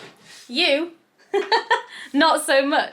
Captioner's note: husband laughs; laughs